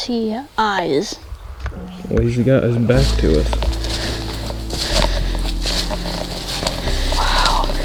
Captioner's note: sound of walking